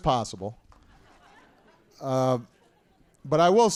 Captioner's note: laughter